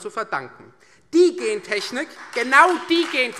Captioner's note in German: Beifall Freie Demokraten